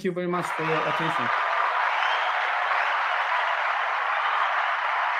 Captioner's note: applause